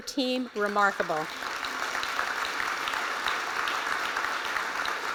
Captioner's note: applause